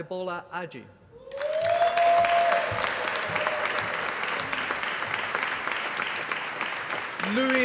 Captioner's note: applause